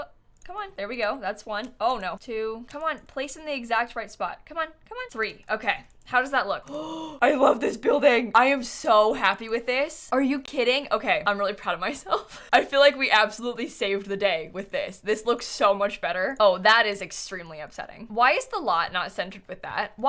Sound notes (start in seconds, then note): 6.6 gasps